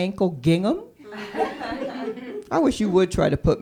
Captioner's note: laughter